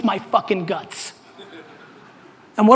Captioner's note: audience laughter